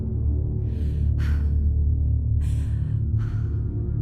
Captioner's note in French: Bruit de souffle angoissé